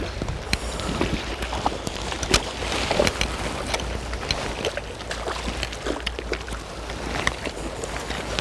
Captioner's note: splashing on the surface